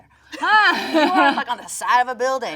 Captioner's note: Jung laughs